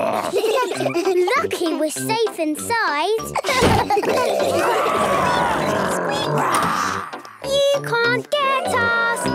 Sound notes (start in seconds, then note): 0.0 giggling; 4.0 growls, snorts